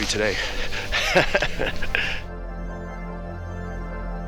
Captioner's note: laughs